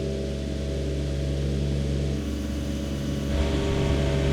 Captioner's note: lawn mower engine